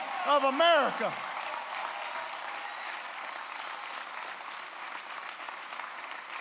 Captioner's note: applause